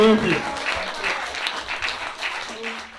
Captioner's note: applause